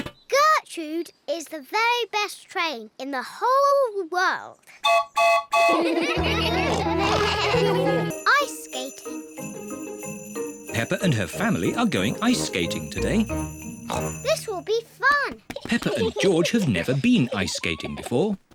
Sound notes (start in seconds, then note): 4.8 toots horn; 5.7 all laugh; 13.4 oinks